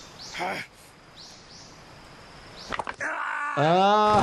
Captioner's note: Snake grunts; bone pops; Snake yells